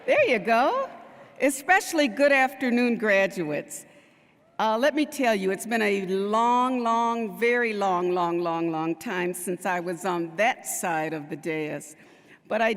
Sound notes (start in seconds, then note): none